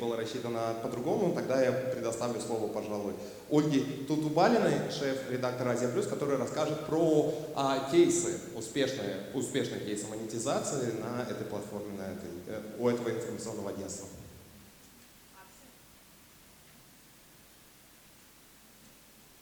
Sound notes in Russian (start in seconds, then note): 15.6 тишина